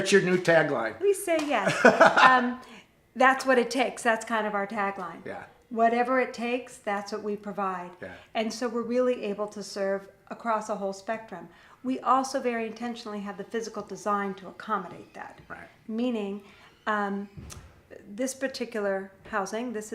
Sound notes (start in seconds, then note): 1.6 laughs